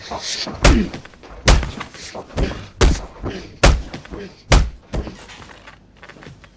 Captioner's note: fist whacking against face; Manny grunting